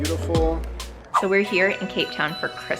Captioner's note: air whooshes